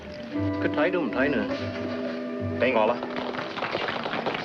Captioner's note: men speaking in foreign language; audience applauding